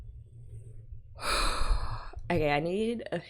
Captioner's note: big exhale